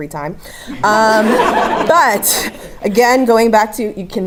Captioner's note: laugh